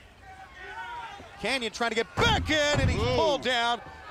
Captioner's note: crowd chatter